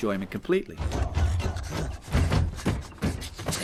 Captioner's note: banging gears and levers